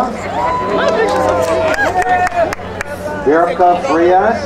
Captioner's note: crowd cheering